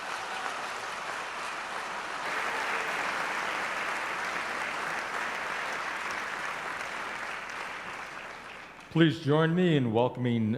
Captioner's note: applause